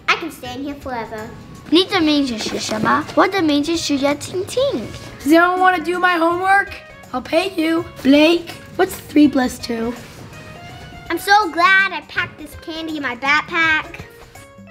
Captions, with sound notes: I can stay in here forever. (reads in foreign language) - Does anyone wanna do my homework? I'll pay you. Blake, what's three plus two? - I'm so glad I packed this candy in my backpack.